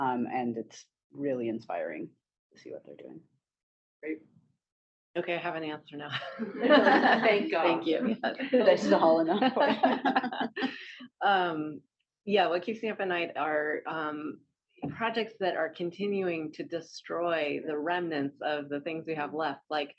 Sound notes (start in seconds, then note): 6.1 laughter; 9.8 laughter